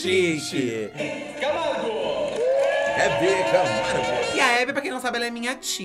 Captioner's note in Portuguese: aplausos